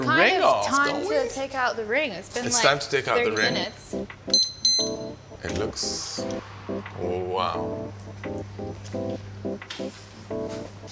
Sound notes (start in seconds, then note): 3.3 oven beeping; 7.6 gentle upbeat music